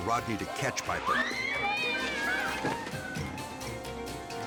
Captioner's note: cat meows